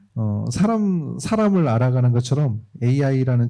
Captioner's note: speaking korean